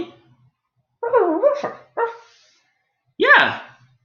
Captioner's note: alien Space doggy quietly barks